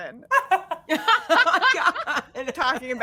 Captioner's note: all laughing